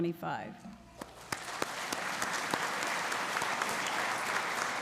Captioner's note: audience applauding